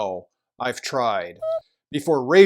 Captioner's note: boop